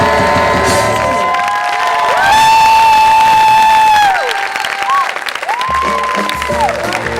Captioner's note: cheering